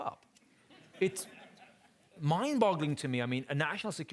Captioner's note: audience laughing